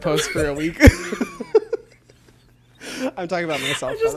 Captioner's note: both laugh